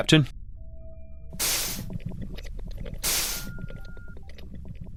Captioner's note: doors swish